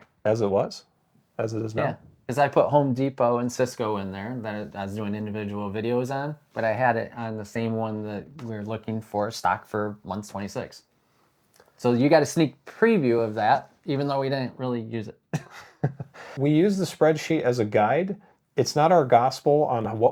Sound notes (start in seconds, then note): 15.3 laughs